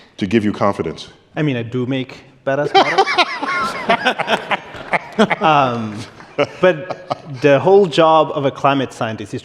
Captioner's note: laughter